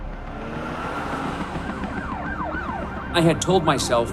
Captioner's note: sirens blaring